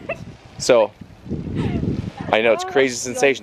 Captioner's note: laughs